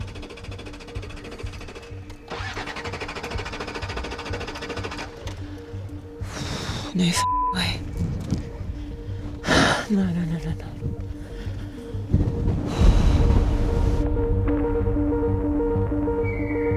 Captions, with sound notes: (vehicle engine whirring) No (beep) way. No, no, no, no. (tense music)